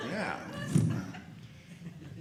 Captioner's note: audience laughing